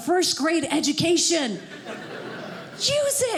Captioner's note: audience laughing